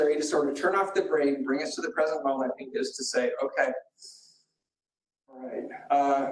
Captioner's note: inhales